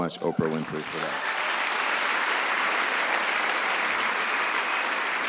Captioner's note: audience applauds